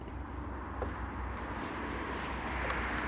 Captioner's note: distant traffic noise